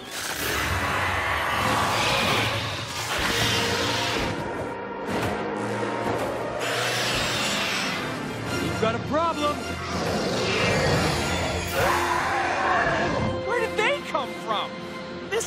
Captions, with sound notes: (Roaring) We've got a problem. (Roaring) Where did they come from?